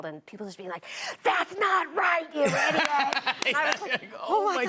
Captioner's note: laughs